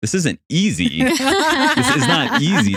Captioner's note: laughing